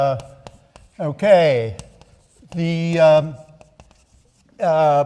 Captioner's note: chalk clacking